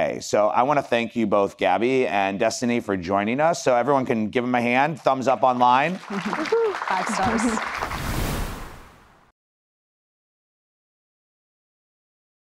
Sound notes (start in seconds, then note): 5.2 audience applause; 7.7 air whooshes